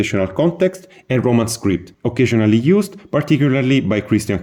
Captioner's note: Latin